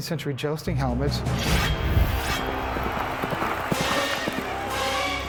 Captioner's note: cheering